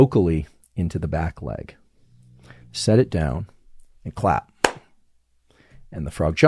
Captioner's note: claps